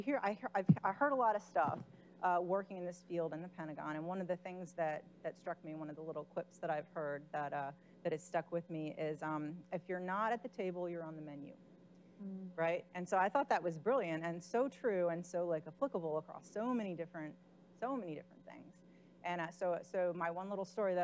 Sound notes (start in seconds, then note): none